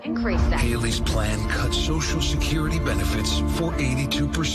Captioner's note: voiceover